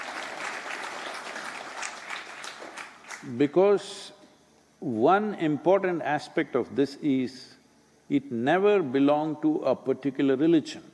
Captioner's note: applause